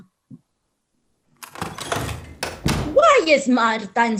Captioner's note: door slamming